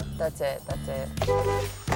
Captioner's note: horn honks